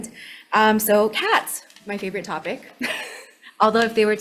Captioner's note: laughs